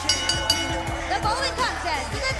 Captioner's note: bell ringing